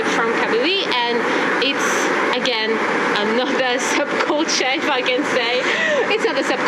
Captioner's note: laugh